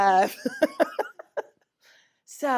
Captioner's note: laughter